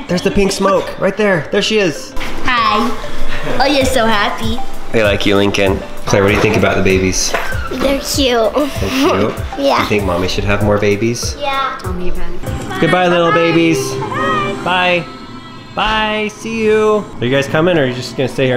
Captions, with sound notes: - There's the pink smoke! Right there! There she is! - Hi! Oh you're so happy! - They like you Lincoln! - Claire, what do you think about the babies? - They're cute (laughing) - You think mommy should have more babies? - Yeah! - Don't even. - Goodbye little babies! Bye! Bye see you! Are you guys coming? Or you're gonna stay here